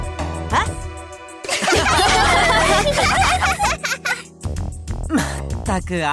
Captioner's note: laugh